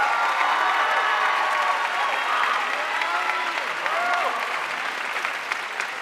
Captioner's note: audience cheering and applauding